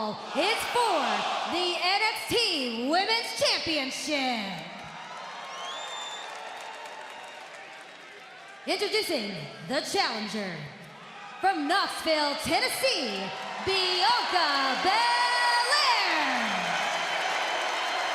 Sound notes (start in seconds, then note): 6.5 cheers and applause